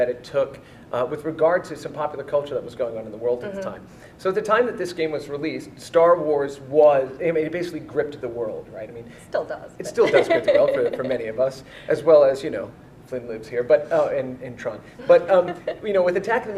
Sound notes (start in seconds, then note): 9.9 laughs